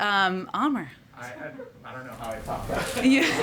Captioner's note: laughter